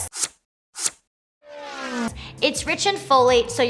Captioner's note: zooming car noises